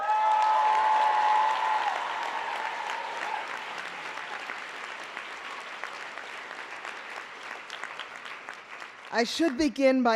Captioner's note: applause